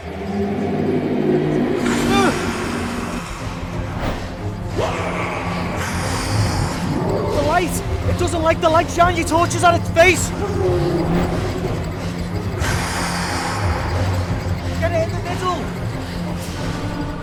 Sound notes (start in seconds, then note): 0.0 deep roar; 5.7 Greenteeth hisses; 12.5 Greenteeth hisses